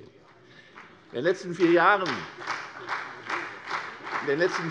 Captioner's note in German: Beifall CDU und vereinzelt BÜNDNIS 90/DIE GRÜNEN